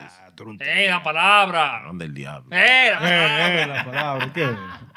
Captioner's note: non-english Speech